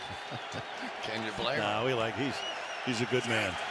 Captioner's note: laughs